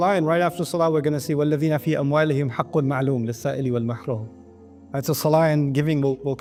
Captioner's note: Arabic